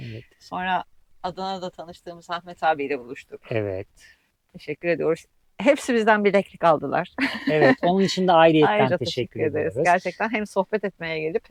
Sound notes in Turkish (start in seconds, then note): 7.2 kahkaha